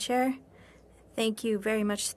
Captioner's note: speaking French